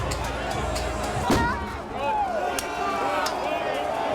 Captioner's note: crowd yelling